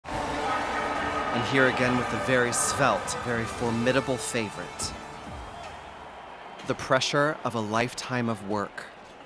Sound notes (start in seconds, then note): 0.0 horns blaring; 0.3 crowd cheering